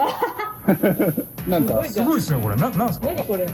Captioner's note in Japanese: 笑い